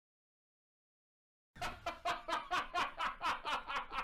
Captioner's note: laugh